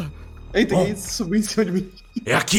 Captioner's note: laughs